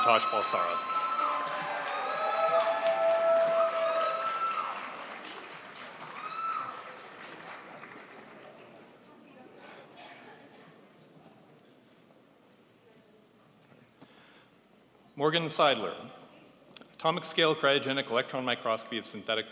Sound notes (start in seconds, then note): 2.2 crowd applauds